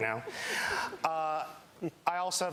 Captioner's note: laughter